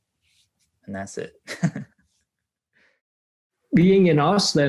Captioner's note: laughs